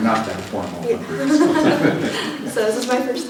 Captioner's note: laughter